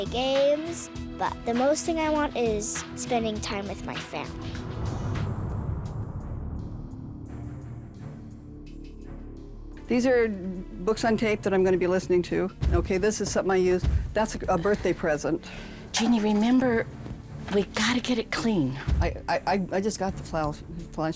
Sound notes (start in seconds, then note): 4.9 dramatic music; 15.4 breathing hard